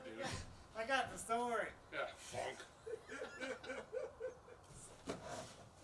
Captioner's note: laughs